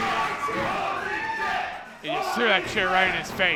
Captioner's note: crowd